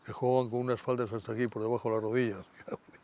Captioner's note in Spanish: Ríe